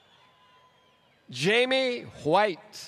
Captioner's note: applause